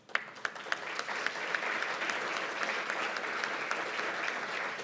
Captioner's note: applause